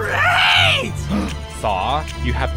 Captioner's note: gasp